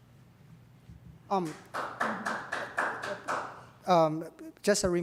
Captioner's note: audience member applauding